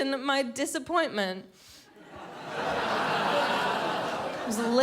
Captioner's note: crowd laughs